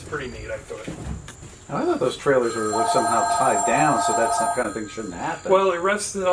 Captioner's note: phone rings